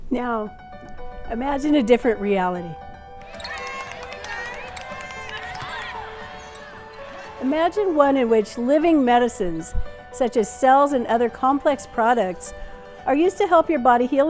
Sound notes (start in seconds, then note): 3.2 cheering